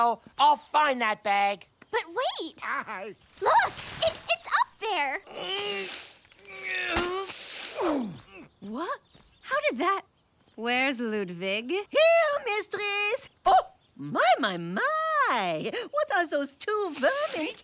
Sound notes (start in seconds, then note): 5.2 groaning